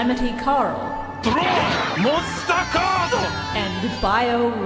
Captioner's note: Weevil screams